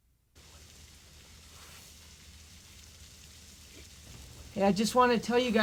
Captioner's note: rain pattering